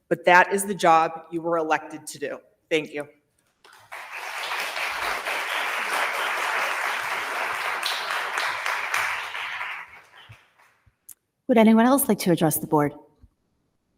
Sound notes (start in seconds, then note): 3.6 audience applauding